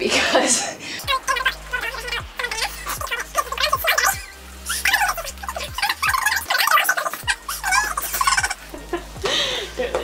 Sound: chipmunk chatter

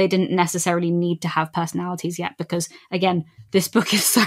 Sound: laughing

